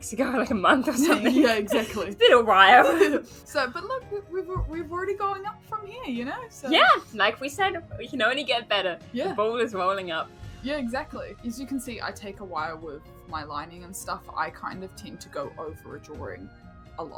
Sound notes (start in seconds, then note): 0.9 laughs